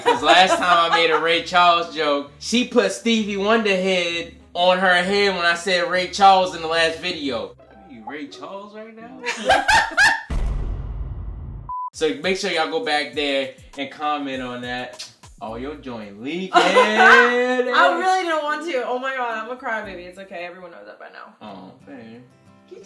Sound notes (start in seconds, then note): 9.3 laughs; 16.6 laughs